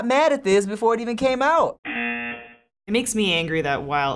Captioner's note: buzzer